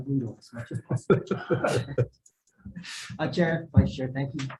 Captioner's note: laughs